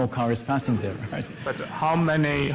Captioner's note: laughter